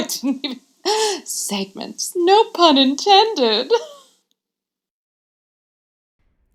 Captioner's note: laughing